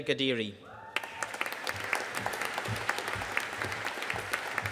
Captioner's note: audience applauding